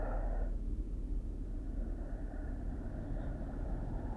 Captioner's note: wind howling